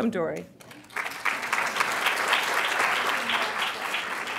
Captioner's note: applause